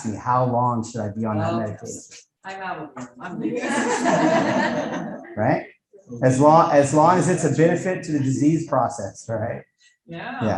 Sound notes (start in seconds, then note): 3.4 audience laughing